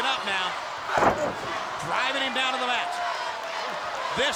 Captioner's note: body thudding